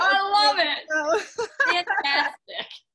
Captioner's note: both laughing